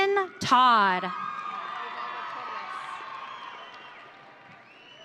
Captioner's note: audience cheering